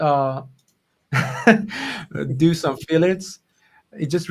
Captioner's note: laughs